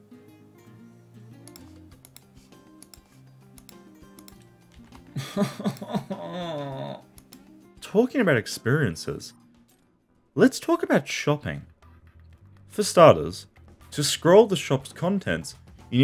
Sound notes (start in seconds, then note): 5.1 A destroyed man sobbing